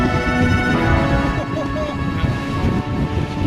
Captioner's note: laughs